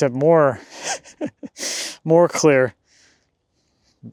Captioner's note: chuckling